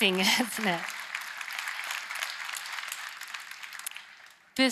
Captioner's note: applause